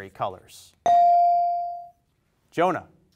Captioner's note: bell rings